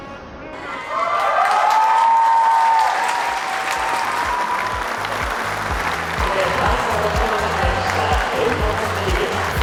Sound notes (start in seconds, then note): 1.2 audience cheers